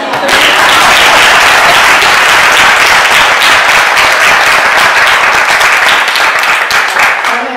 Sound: applause

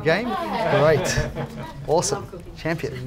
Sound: laughs

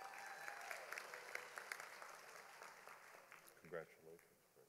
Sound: audience applauding

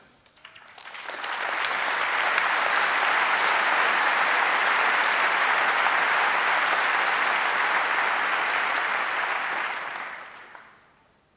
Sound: applause

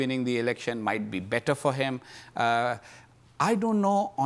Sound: none

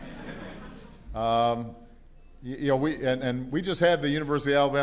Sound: laughter

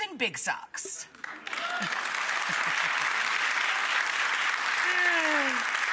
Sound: audience applauding

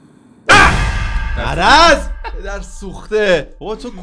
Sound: screams

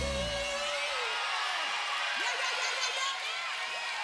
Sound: crowd cheers

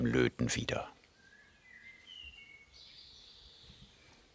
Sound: birds chirping

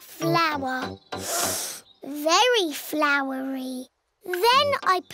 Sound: sniffs

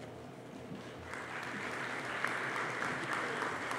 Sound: applause

